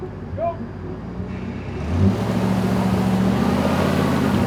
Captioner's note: engine revving